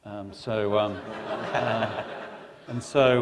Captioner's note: laughter